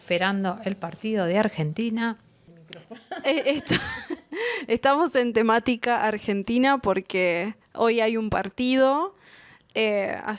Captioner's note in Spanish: risas